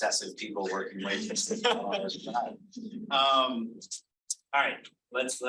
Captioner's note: audience laughing over